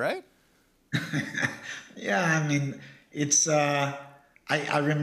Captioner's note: laughs